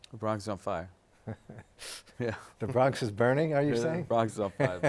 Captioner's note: laughs